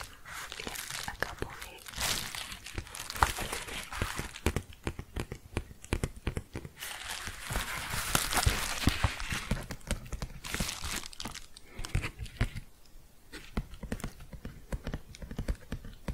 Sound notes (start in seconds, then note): 3.5 tapping and shuffling